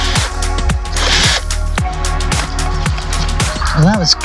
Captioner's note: sound of drilling